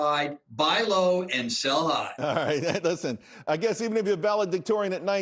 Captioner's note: laughter